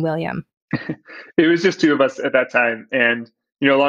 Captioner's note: laughs